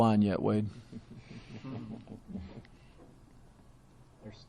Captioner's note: all chuckling